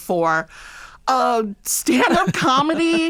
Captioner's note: laughter